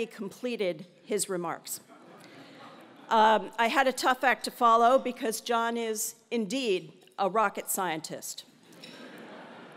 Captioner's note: laugh